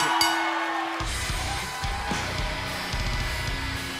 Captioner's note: bell ringing